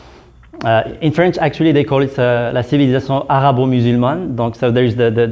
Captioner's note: french